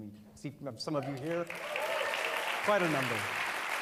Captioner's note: applause